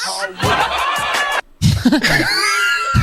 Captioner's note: crowd laughs; pair laughs